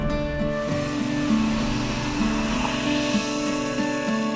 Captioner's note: fizzing, flowing